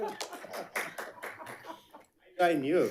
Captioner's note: audience clapping